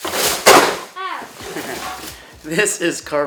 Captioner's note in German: Gelächter